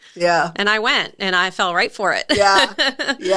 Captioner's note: laughing